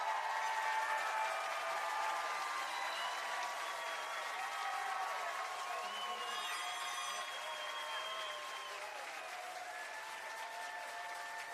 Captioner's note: cheering